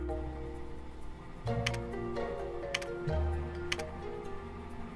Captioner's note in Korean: 타자 소리